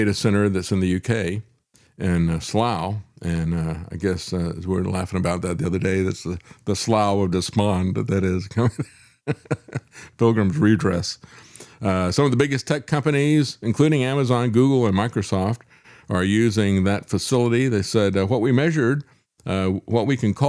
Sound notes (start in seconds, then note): 9.2 laughs